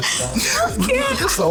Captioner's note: laughing